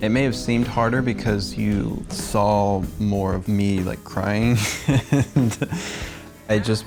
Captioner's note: chuckles